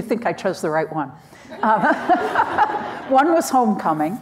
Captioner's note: everyone laughing